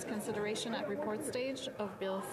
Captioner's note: speaking French